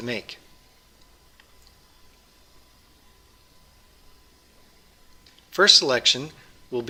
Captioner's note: pause